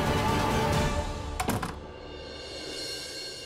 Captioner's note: door opens